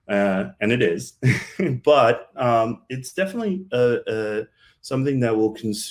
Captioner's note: chuckles